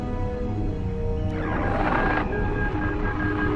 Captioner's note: Jedi Holocron opens